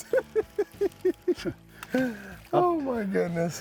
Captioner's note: laughing